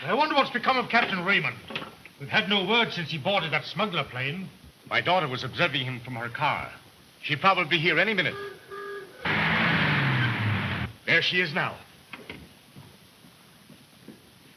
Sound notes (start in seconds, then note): 8.3 car horn honking; 9.2 engine revving